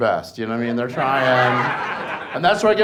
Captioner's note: audience laughs